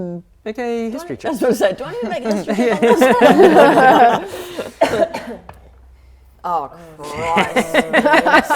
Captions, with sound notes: Okay History check I was going to say Do I need to make history check on this? *laughing* Oh christ